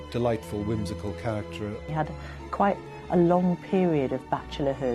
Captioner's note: voiceover